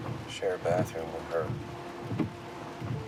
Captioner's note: none